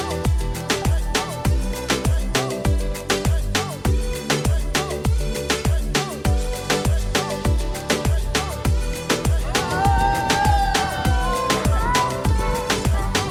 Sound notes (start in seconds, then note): 0.3 upbeat music continues; 9.4 group cheering